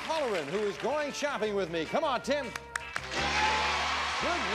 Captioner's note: audience applauding